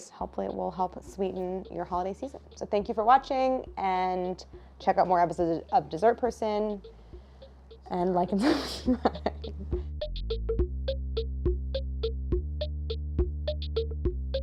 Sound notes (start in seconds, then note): 8.2 laughs; 10.4 bubbly music